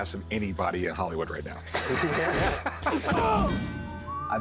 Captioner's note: laughter